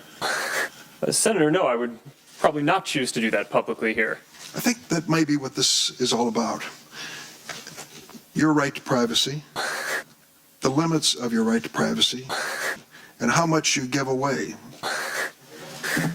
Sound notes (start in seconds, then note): 9.2 ZUCC Hiss